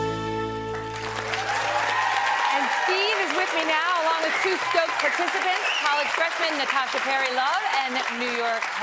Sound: applause

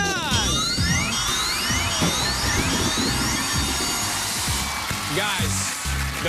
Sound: alarm sounding

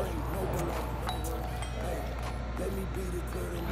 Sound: doorbell chime

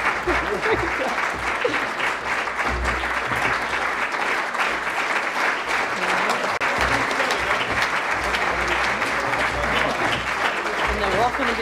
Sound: applause

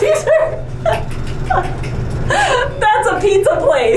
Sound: both laugh

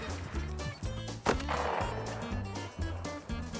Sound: shot goes off; upbeat country music

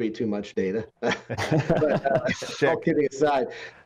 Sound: all laughing

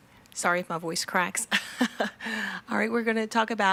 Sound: laughs

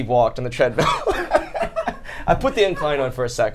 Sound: all laugh

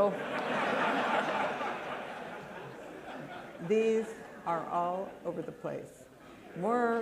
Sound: laughter

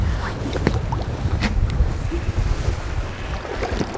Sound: rippling water

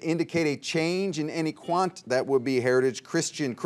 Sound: buzzer beeps

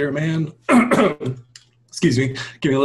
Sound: clears throat

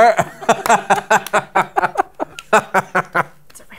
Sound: laughter

